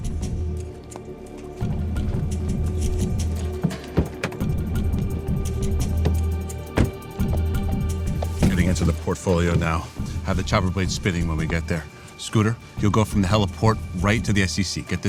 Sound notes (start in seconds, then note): 0.2 suspenseful music; 3.7 door clacks; 6.7 door thuds